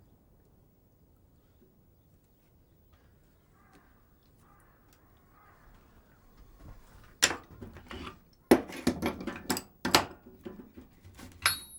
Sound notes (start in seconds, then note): 4.4 crow cawing; 8.4 metal tools